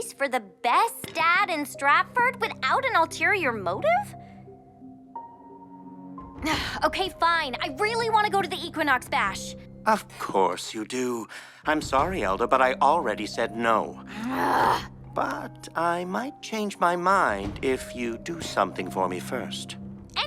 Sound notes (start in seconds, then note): 14.0 Elda groans